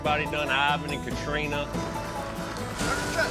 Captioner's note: rain pouring